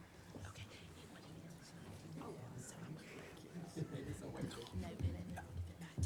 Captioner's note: whispering off microphone